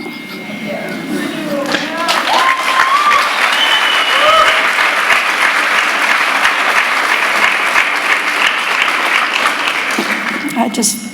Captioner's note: applause